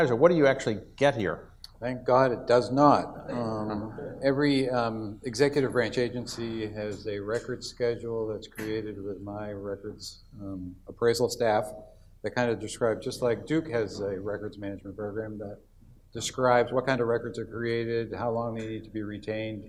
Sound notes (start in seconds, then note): 3.2 audience laughs